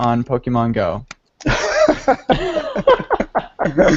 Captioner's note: laughter